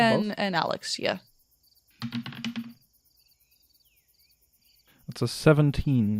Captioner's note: dice clacks